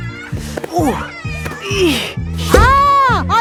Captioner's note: grunting